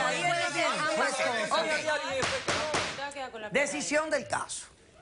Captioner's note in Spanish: Hablan al unísono